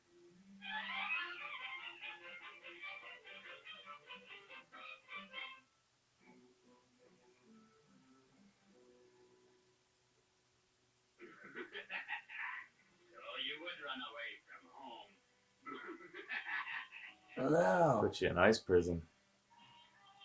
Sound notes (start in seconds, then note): 11.2 evil laugh; 15.6 evil laugh